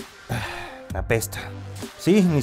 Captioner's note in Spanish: suspiro